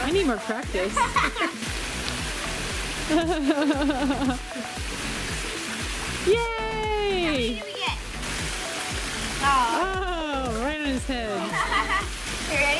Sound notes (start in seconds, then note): 3.1 laughs